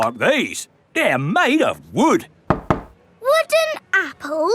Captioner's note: knocks